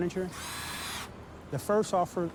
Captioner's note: drilling machine humming